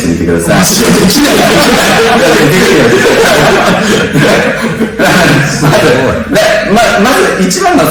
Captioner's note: laughs